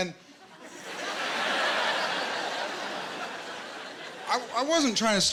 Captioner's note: laughter